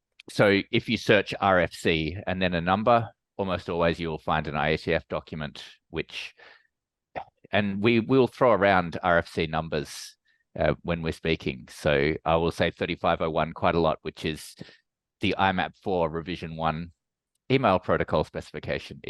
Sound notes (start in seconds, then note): none